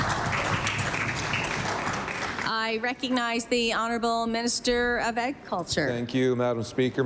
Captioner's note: applause